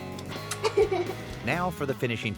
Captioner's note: chuckles